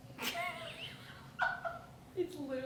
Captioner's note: laughs